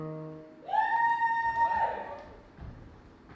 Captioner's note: audience cheers